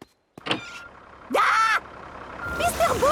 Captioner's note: tractor noise